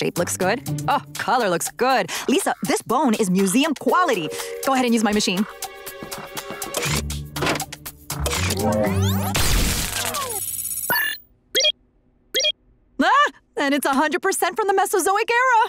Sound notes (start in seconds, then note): 10.5 beeping